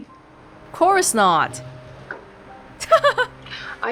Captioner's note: chuckles